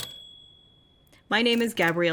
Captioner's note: typewriter clacking